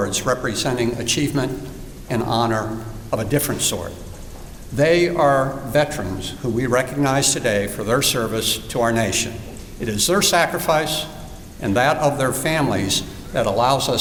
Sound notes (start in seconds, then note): none